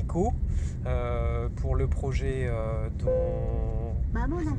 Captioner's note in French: son du GPS en japonais